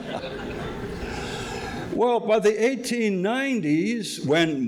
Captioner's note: audience laughing